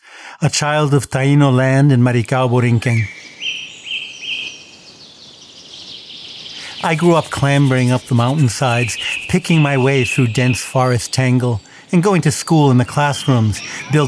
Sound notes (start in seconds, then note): 3.3 birds chirping